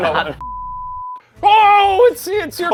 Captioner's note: screen beeping